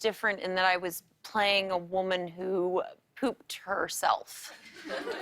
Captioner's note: laughter